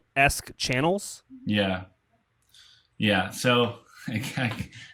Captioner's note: laughs